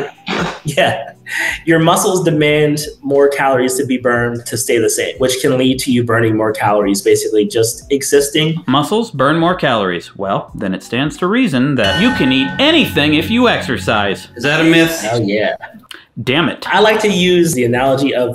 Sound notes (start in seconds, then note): 11.8 chime sounding